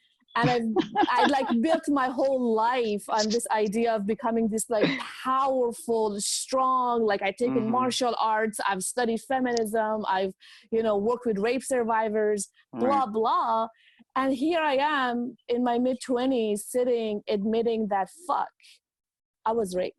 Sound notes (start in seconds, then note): 0.4 laughing